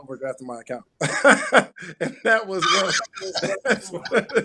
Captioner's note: laughs